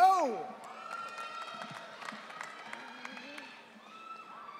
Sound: audience cheering

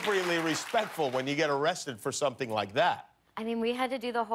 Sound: cheers and applause

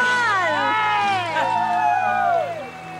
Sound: cheering

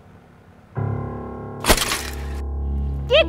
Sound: crashes

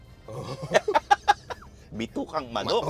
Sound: laughs

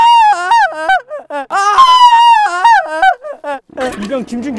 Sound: the private makes a sharp cry!

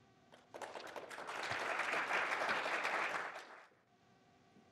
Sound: applause

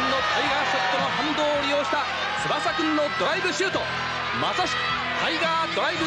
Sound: applause

